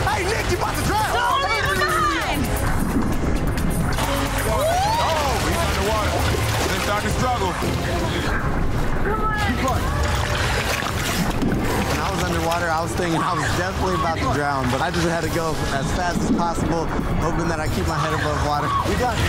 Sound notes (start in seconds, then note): 5.2 water splashing; 9.5 gasping; 10.0 urgent music; 10.0 water splashing